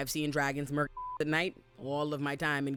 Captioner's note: beep